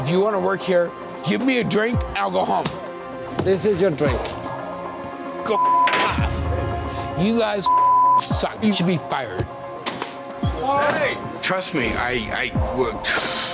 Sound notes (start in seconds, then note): 7.7 beep